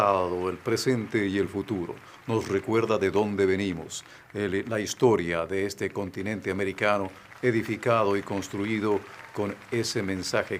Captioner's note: applause